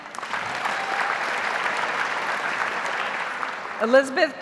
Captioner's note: audience applauds